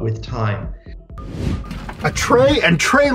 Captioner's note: swooshing